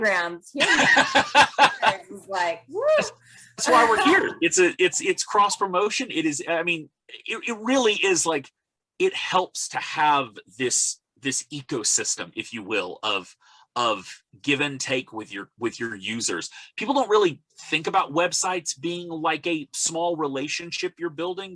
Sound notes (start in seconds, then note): 4.6 laughs